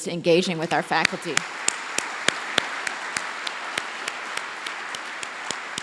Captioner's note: applause